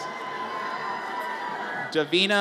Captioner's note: audience cheers